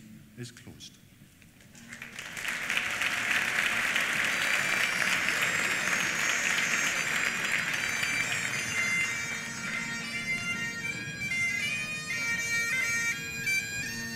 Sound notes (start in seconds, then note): 1.7 applause; 4.4 bagpipes play